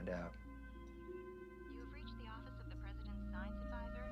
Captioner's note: female recorded voice